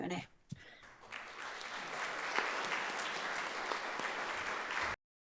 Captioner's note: audience applauds